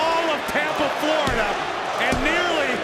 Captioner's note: hand slaps